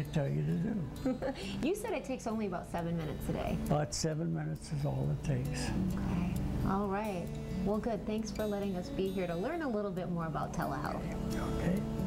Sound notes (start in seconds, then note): 0.5 laughs